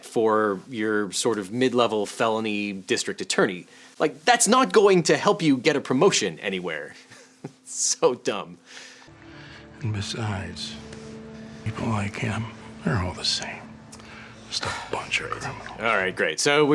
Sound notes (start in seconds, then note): 7.2 chuckles